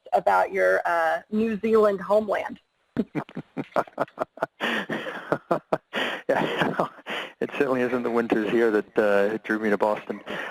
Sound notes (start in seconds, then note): 3.0 laughs